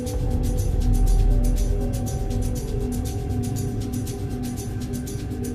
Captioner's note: booming sound